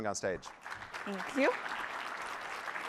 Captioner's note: applause